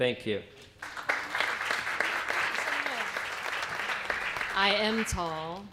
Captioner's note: applause